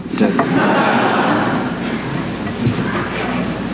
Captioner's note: laughter